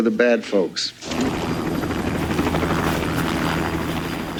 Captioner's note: helicopter blades whirring